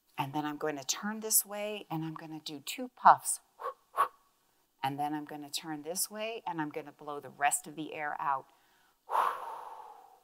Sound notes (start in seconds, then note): 3.2 exhales; 8.6 exhales